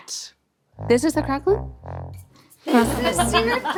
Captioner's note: all laughing